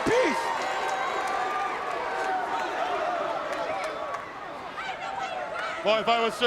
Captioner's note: crowd cheering